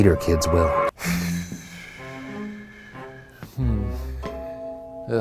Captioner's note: sighs